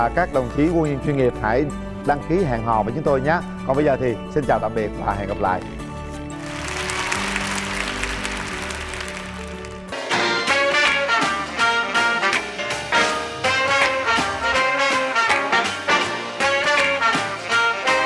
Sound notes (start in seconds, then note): 6.3 applause